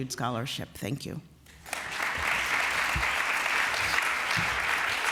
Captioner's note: applause